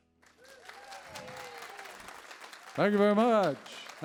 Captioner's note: audience applauds